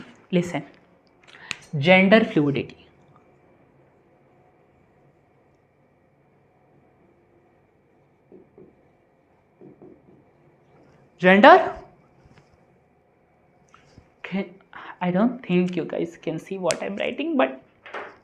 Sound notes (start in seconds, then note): 3.3 silence